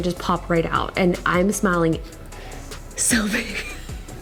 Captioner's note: laughs